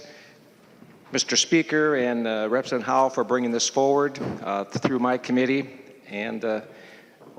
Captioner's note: gavel